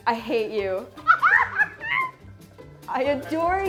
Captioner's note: Lucy laughs